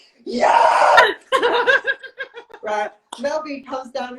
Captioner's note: laughs